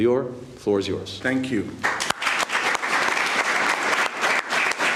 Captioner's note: applause